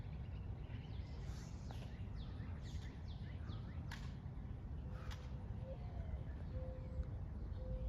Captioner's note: clicks feet and rifling